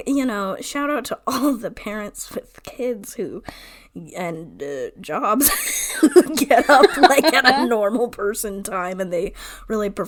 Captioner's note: laughs